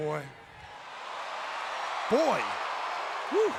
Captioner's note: crowd cheering